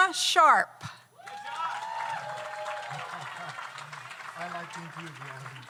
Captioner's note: audience cheers; audience applauds